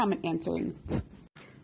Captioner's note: woosh